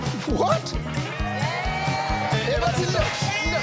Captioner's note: audience cheering